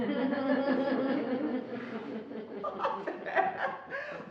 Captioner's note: laughing